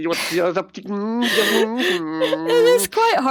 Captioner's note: quiz globlin sounds